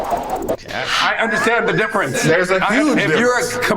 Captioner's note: laughs